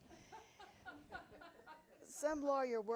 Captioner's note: audience laughing